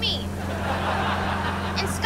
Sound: laughing

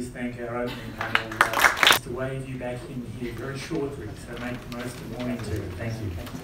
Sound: applause

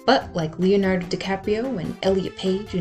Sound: none

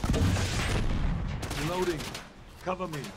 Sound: grenade exploding

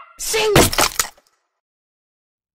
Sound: egg cracks

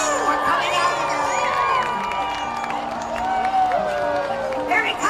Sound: crowd cheering and clapping

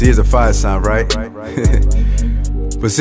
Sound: laugh

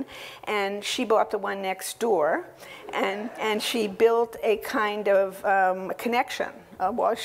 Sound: laugh

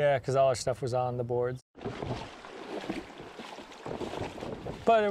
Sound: splashing

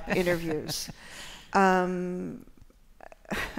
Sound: laughter

